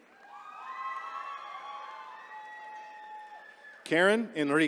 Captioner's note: attendees cheering